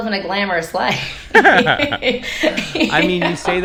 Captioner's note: laughing